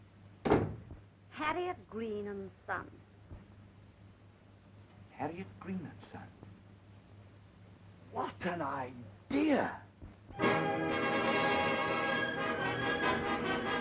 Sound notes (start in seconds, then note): 0.4 door closing; 10.3 dramatic show music